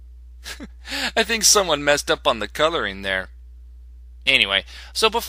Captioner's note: snicker